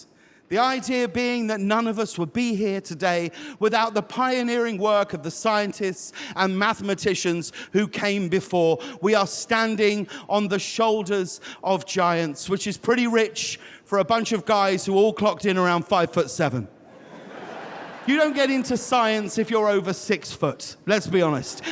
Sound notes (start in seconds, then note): 16.8 audience laughing